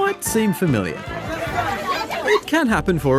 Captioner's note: clamouring